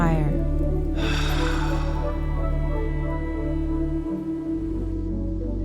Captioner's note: Elvis exasperatedly sighs; disoriented wonder music